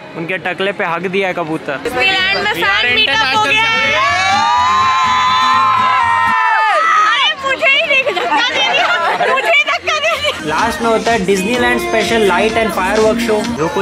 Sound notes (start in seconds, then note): 3.5 cheering; 7.9 laughter